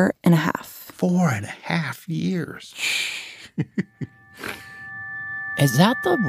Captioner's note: laughs